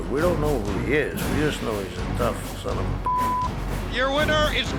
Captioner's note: beeps